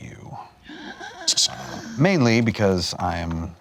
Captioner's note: gasps